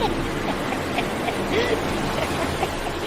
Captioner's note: cackling